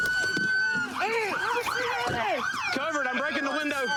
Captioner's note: shouting